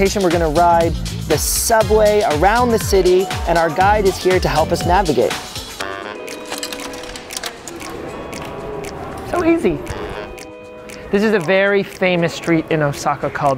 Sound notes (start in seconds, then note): 5.4 funky music; 6.3 turnstile taking ticket